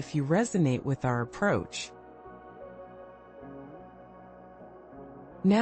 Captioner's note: pause